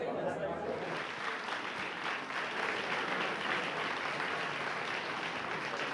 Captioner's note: audience applauding